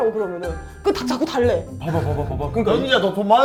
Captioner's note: tired